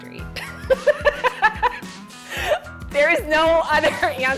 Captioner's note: laughing